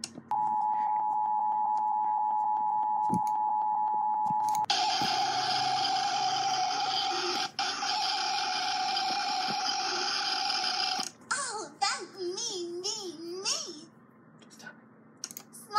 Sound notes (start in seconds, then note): 4.4 screeching; 14.2 whisper